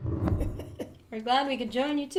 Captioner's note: laughs